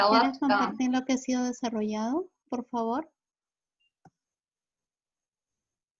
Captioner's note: female speaking in foreign language